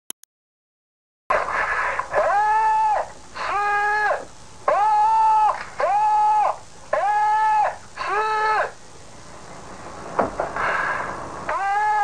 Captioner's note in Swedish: Ljudet av en man som ropar efter hjälp på japanska